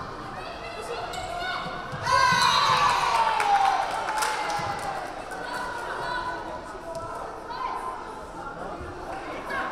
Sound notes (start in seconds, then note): 1.9 crowd cheering; 2.2 whistle blaring